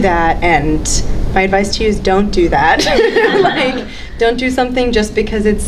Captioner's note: laughs